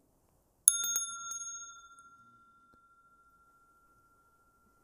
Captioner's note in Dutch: rinkelt bel